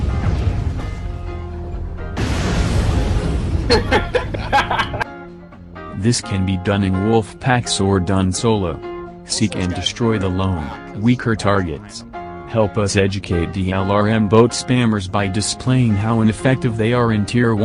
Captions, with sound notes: *cackling* This can be done in wolf packs or done solo. Seek and destroy the lone, weaker targets Help us educate the LRM boat spammers by displaying how ineffective they are in tier 1